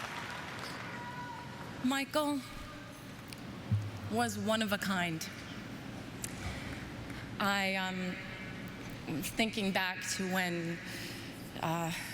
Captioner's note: apapplplauausese